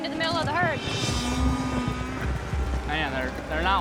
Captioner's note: cows mooing